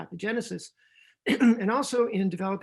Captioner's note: clears throat